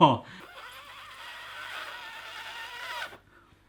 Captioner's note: blows